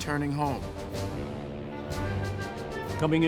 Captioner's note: ship's horn blasting